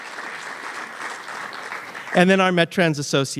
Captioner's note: applause